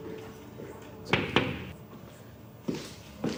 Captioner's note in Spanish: Toques en la puerta